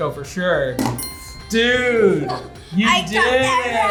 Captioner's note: bell rings